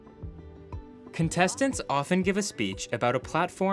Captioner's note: none